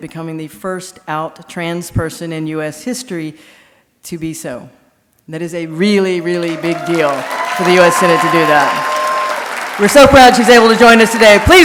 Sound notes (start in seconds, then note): 6.2 audience applauding